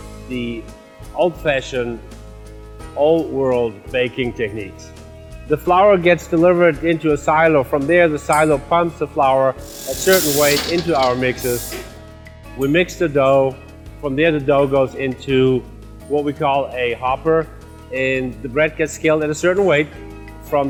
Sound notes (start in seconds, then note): 9.6 mixers puffing